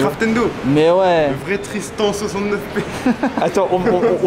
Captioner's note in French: Rires